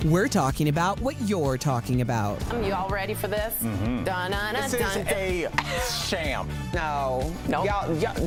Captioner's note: laughter